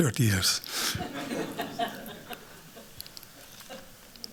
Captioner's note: laughter